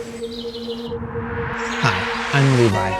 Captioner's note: birds chirping; wind blowing